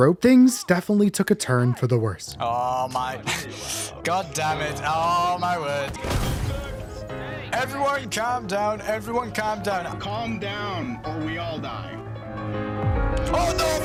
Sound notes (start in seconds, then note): 6.0 explosions; 6.0 molotov explodes; 12.2 piano music